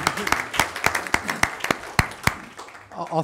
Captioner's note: applause